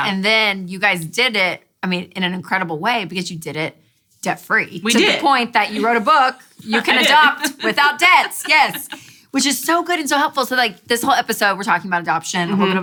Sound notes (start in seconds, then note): 6.6 laughs